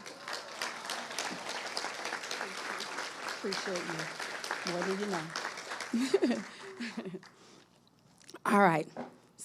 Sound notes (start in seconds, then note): 0.0 audience applauding; 5.9 chuckles